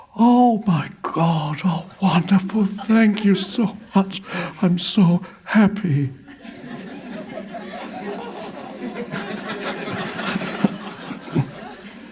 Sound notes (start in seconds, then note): 5.5 crowd laughs